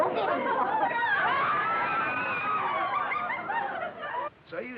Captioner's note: yelling